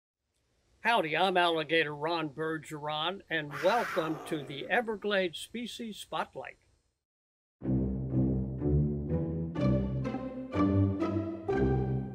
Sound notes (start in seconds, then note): 9.3 roar